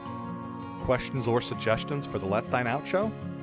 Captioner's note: voiceover